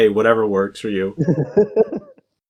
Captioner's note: laughs